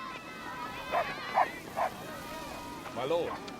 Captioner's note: all yelling and laughing; dog barking